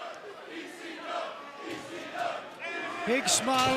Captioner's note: fans chanting